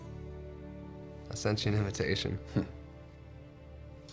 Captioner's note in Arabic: ضحكة خافتة